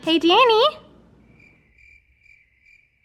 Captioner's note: crickets chirping